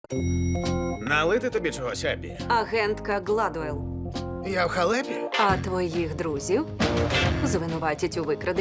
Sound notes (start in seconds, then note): 0.1 elevator bell dings